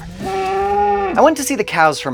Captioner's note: cow mooing